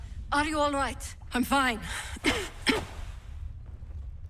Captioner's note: coughing